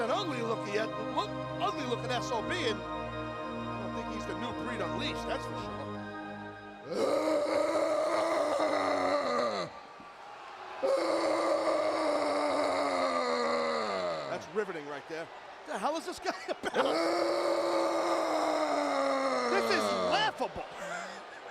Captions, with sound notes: He's an ugly looking SOB. I don't think he's the new breed unleashed, that's for sure. (zombie grunts) That's riveting right there. What the hell is this guy about? (zombie grunts) This is laughable.